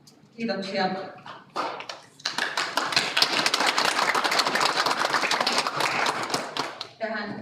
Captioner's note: Aplodit